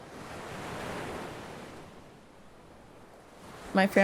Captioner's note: waves lapping